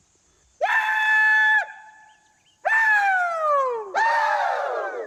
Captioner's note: screams; all screaming